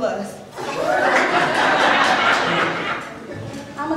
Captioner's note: audience laughter